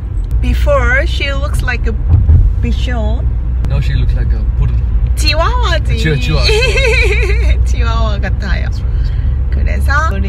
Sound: laugh

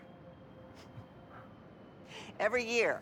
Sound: laugh

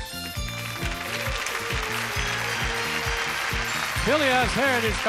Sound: audience applauding

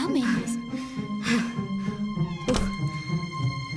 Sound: huffing & Puffing

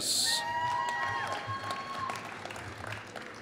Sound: applause

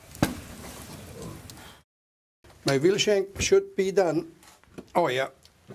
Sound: sizzling

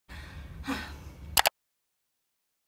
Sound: sigh

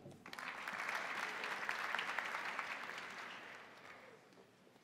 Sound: crowd applauding

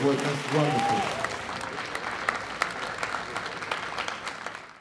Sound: audience applause

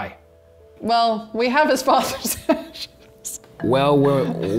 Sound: laughing

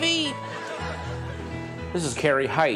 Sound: audience laughter

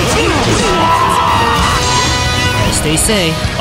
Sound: KO Scream

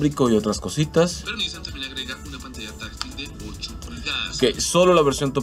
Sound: man speaking in Spanish

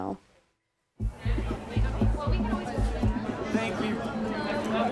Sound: people chatting

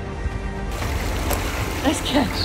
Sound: background music; water splashing sounds

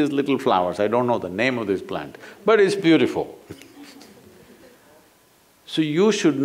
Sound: few laugh

